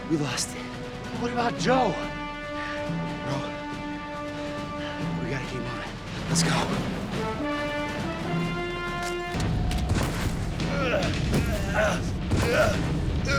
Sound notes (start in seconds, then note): 10.6 grunting